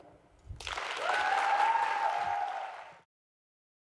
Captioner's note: applause